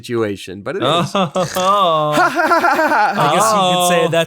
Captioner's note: laughing loud